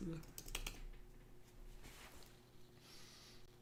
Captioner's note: typing